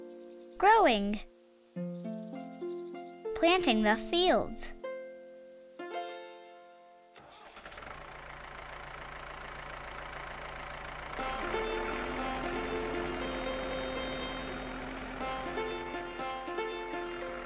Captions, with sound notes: Growing. Planting the fields. [engine starting]